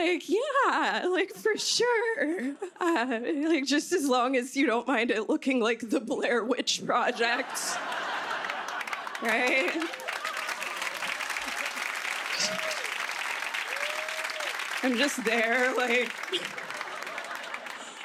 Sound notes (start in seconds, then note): 7.1 laughter; 10.9 applause; 16.3 laughter